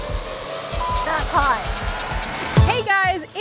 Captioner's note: beeps